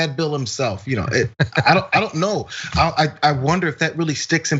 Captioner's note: laugh